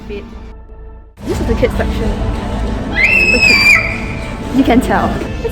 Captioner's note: scream